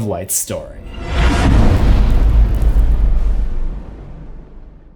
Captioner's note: impact